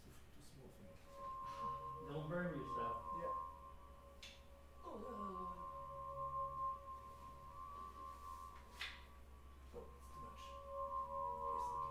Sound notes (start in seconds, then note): 4.8 groaning; 6.9 high pitched sound playing